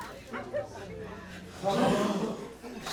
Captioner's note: crowd gasps